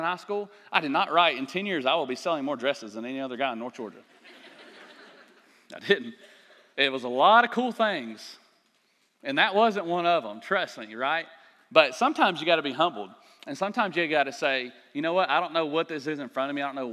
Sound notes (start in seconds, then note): 4.1 laughter